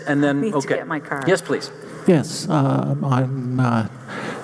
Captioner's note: voiceover